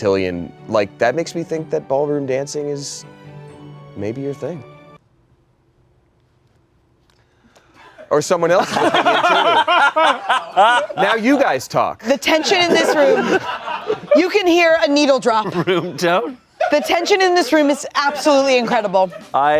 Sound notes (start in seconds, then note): 8.6 everyone laughs